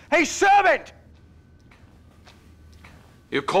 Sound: footsteps approaching

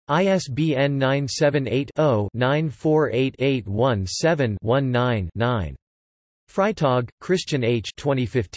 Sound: in German

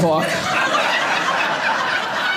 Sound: audience laughing

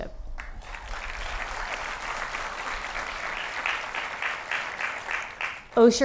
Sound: applause

